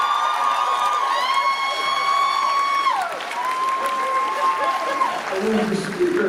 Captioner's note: cheers; applause